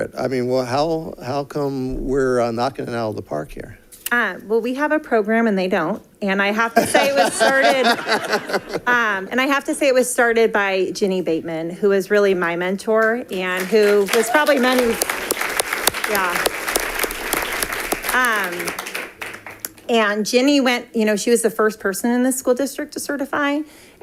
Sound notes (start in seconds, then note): 15.3 audience applauding